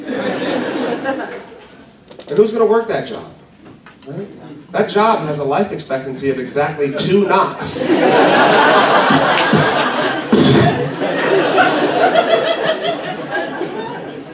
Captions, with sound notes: (laughing) And who's going to work that job? Right? That job has a life expectancy of EXACTLY 2 knocks... (laughing) (knock, knock)... BOOM! (laughing)